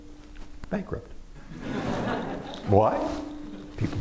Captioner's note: laughter